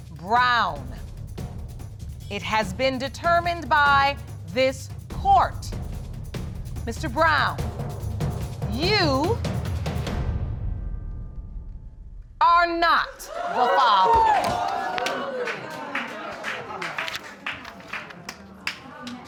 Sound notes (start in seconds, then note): 13.2 audience exclaiming